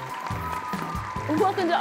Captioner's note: people applauding